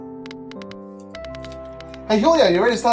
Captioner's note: tapping at keyboard